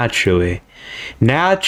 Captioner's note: inhales Oxygen